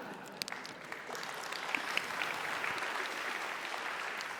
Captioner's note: applause